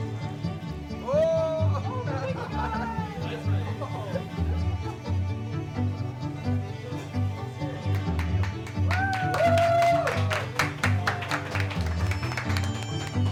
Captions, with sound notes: Whoaaaaaaaa! [inspiring strings music] [cheering, clapping]